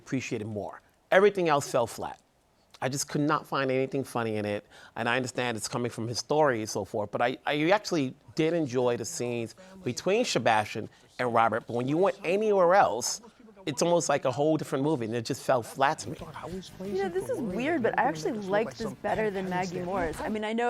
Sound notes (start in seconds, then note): none